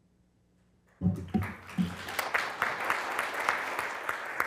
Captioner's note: applause